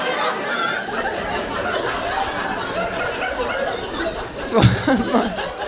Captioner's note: audience continues laughing